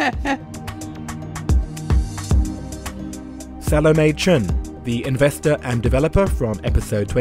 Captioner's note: voiceover